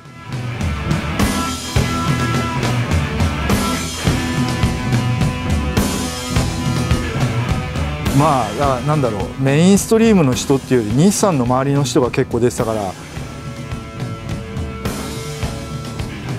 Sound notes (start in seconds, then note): 0.3 bright upbeat music; 8.1 speaking in Japanese; 13.1 bright upbeat music